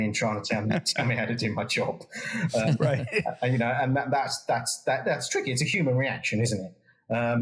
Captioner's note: laugh